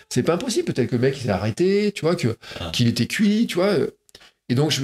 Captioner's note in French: none